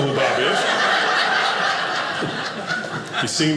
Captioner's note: audience laughing